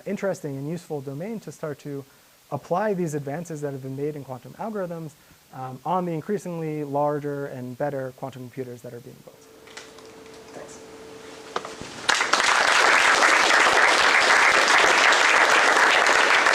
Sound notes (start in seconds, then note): 12.0 applause